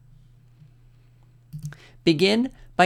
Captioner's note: click